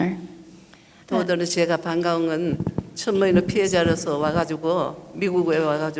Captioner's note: speaking foreign language